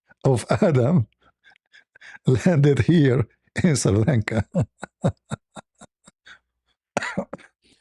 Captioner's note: laughter; laughter